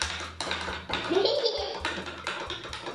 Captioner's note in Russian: Смех